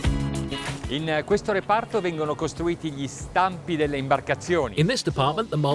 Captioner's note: upbeat music; speaking in foreign language